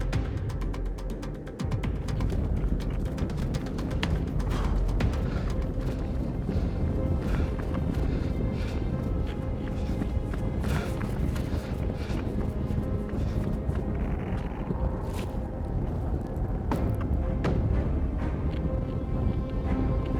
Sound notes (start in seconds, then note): 2.6 ground rumbling; 4.6 Brian panting; 14.1 wind blowing; 17.0 suspenseful music